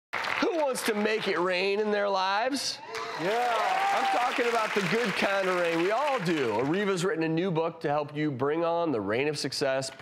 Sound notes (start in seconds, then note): 2.8 cheering